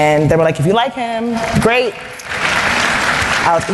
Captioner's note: applause